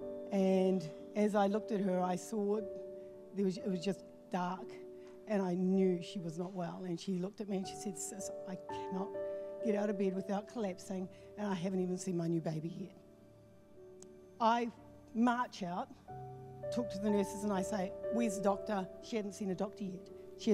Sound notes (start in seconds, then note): none